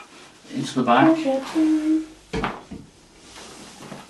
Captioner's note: person humming; rope rustling